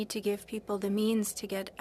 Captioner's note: speaking french